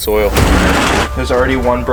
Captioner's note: door clatters open